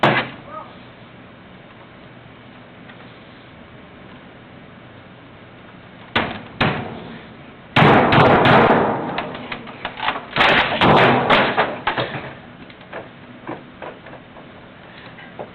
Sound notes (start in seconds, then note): 0.0 slap thudding; 6.2 fist thudding; 10.7 computer thudding